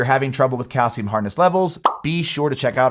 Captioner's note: graphics pop